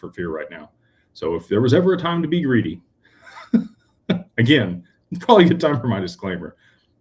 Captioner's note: laughter